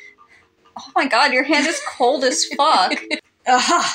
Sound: laugh

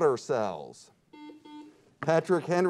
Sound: buzzer beeps

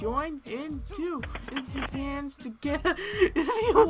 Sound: hangs up; laughing

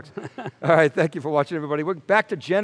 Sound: laughs

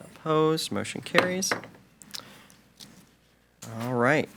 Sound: gavel bangs

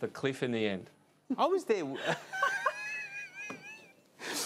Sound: laughs

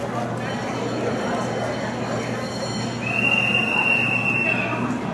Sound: cable Car bells ringing

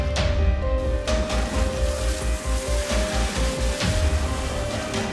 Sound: water spraying

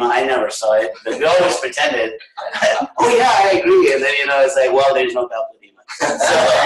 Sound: laughter

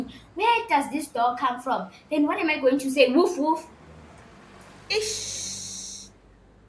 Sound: mockingly

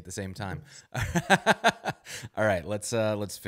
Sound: both laugh

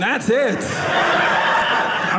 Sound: audience laughing

